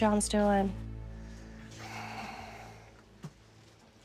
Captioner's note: sighs